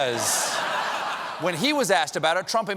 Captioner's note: laughter